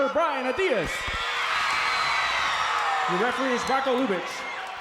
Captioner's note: crowd cheers